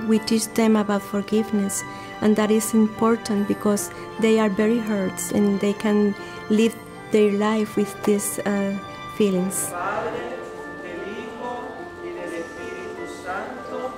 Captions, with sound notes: We teach them about forgiveness and that is important because they are very hurt. And can't live their life with these feelings. (prays in Spanish)